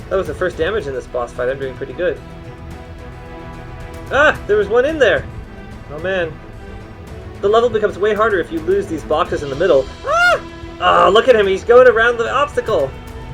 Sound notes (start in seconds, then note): 10.0 screams